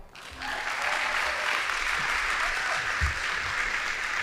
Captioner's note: audience applauding